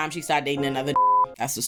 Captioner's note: beep